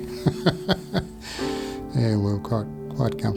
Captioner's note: giggling